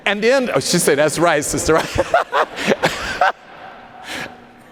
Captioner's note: laughs